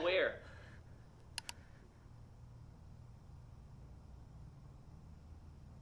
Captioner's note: computer mouse clicks